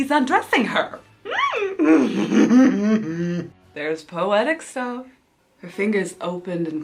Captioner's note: whimper gasps